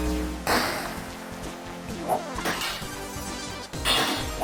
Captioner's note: video game noises